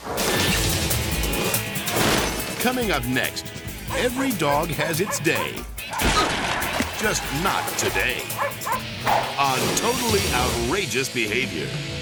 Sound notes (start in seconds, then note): 0.3 upbeat music; 6.0 table crashes; 8.3 dog barks